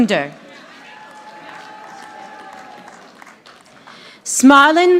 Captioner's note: audience applauding